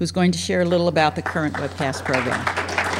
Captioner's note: background applause; applause